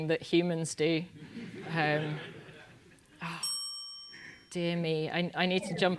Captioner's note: laugh